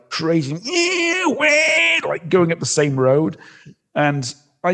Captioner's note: eeeaaaahhhh wwwaaaahhhh